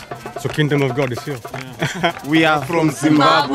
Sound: voiceover; laughs

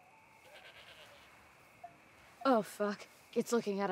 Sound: goat bleating

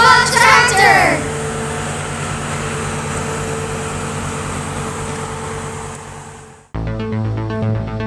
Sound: truck sounds

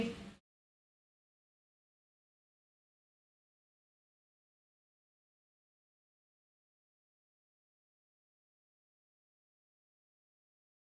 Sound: silence

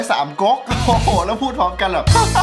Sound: chuckles; laughs

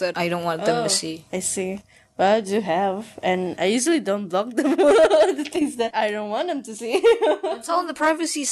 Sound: laughs

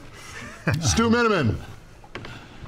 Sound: laughing

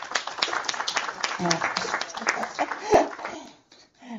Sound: applause

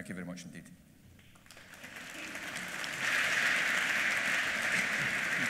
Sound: applause

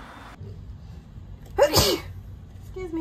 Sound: sneezes

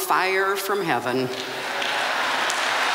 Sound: cheering and applause

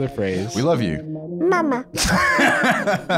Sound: baby voice; laughing

